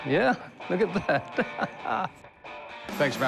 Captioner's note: laughs